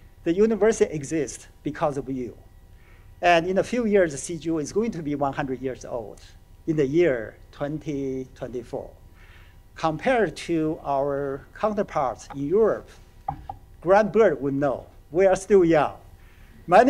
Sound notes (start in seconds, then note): none